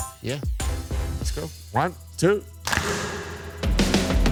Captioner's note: group Claps